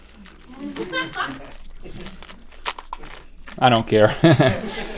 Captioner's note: crew chuckles